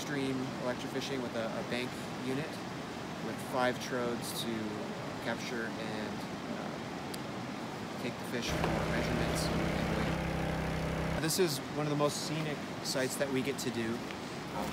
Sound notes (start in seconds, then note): 8.5 machinery